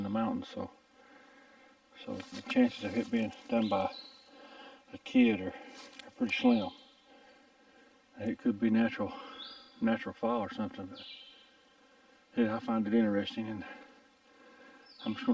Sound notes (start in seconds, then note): 10.8 bird chirping